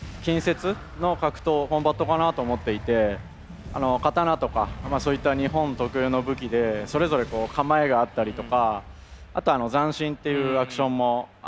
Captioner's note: speaking foreign language